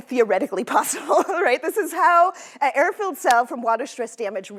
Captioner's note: laughter